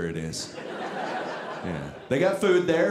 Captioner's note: audience laughing